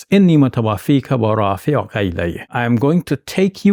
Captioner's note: speaks foreign language